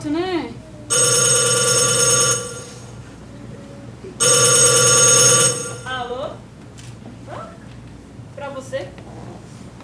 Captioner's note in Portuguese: telefone tocando